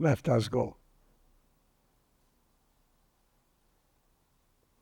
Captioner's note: pauses 8 seconds